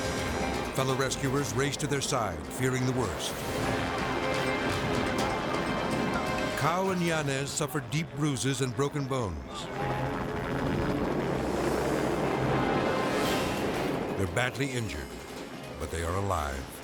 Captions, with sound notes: Fellow rescuers race to their side, fearing the worst. Cow and Yunez suffered deep bruises and broken bones. (helicopter droning) They're badly injured, but they are alive.